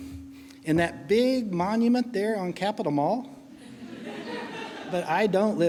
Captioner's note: laughing